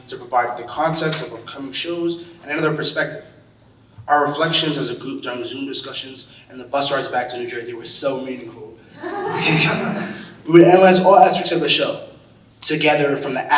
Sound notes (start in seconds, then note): 8.9 audience laughing